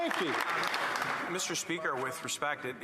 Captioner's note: applause